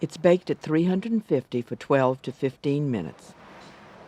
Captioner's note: voiceover